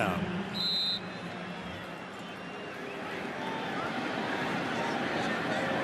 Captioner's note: whistle